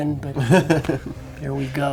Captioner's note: laughs